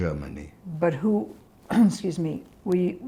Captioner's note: clears throat